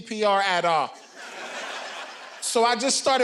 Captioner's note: audience laughing